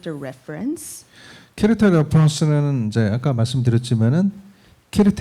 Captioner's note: speaking korean